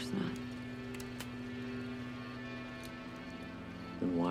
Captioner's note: trigger clicks